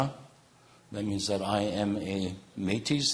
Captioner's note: speaking in native language